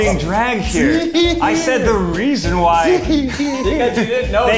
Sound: giggling

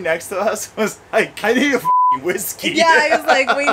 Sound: beep

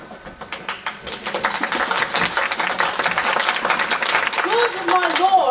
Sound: applause

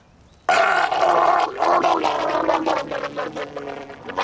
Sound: Frank gargling

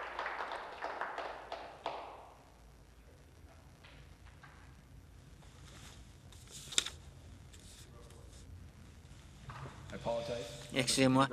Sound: applause

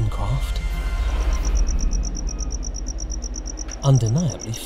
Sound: crickets

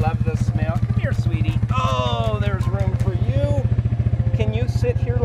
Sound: groans

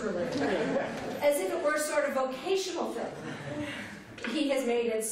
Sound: laughter

